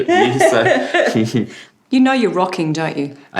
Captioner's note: laughter